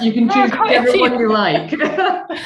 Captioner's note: laughing